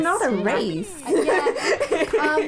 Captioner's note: laughter